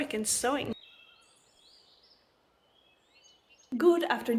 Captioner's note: bird noises